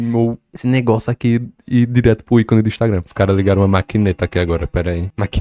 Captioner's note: construction noises in the background